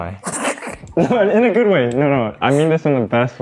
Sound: laughing

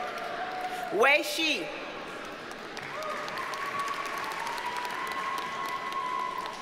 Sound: audience cheers and applauds

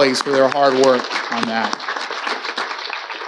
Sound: audience applauding

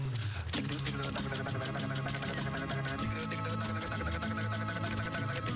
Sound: camera click

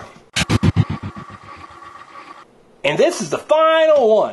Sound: helicopter wings

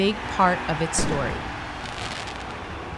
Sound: fans cheering; fireworks exploding; fans cheering

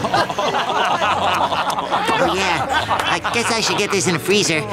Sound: laughing

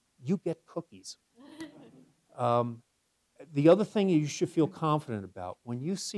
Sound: laugh

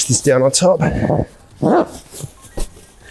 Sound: zip rasping; fabric swooshing

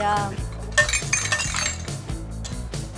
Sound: clattering

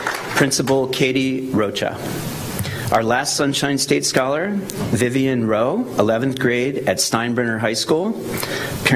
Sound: applause

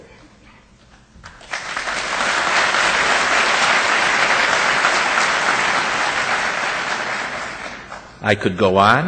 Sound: audience applause

